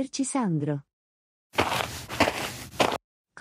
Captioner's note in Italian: FX - Footsteps - On Multiple Dirt - Walk